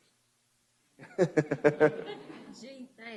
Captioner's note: laughter